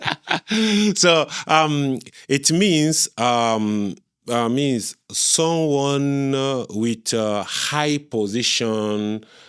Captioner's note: laughter